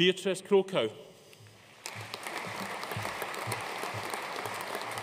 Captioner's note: audience applauding